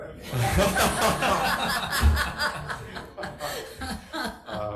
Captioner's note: audience laughing